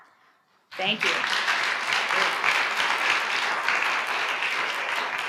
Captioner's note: audience applauds